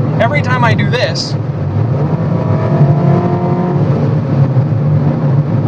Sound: Angry Toyota Engine Noises

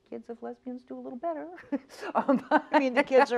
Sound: laughs

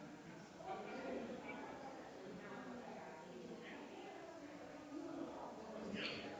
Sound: people chattering distantly continues

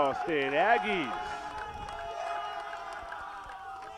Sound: cheering

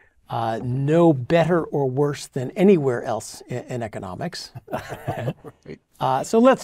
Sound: laugh

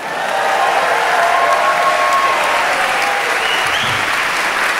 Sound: cheering, clapping

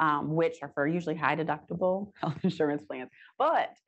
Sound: chuckles

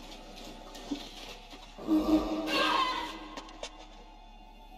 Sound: goonies arguing; echoing grunt

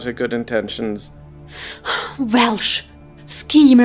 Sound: sigh

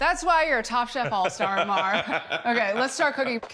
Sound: laughing

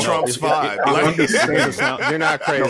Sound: laughing

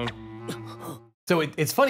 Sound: Phoenix grunting

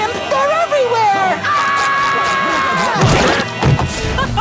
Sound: screaming; laughing

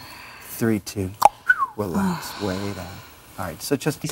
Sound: cluck-snap-whistle!

